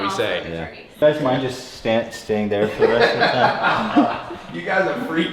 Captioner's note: Tai laughs